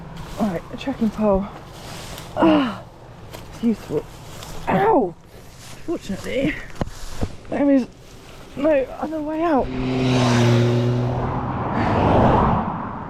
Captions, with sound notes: right, trekking pole ughh! it's useful ow! unfortunately there's no other way out *motorbike* *car*